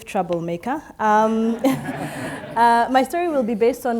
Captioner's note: audience laughs